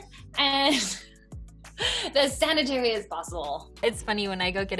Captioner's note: laughs